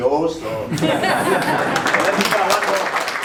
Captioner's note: laughter